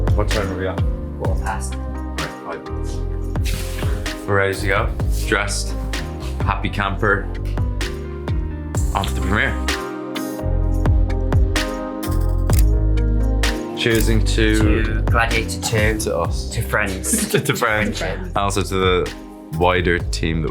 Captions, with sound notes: What time do we have? - Four past. - Right. We're ready to go. Dressed, happy camper. Off to the premiere. [chill music plays] [camera clicks] Cheers-ing to? - To Gladiator II, - To us. - To friends. - To friends. - Also to the wider team